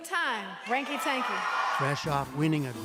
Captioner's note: cheering and applause